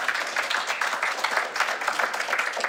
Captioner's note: applause